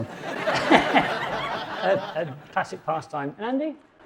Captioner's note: audience laughs